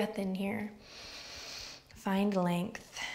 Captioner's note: inward breath